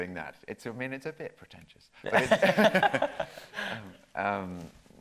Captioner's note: both laughing